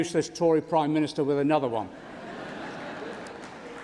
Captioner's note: applause